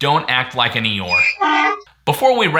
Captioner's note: donkey whining